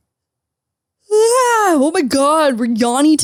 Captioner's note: yawning